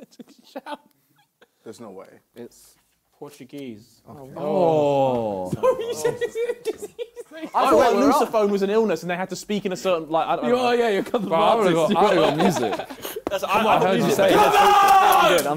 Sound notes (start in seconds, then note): 10.9 both mumbling; 14.7 claps